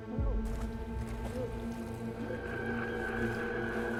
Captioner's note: water splashing; ominous music